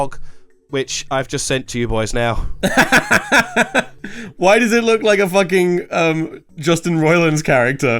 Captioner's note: laughs